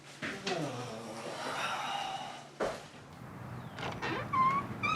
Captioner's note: Scott groans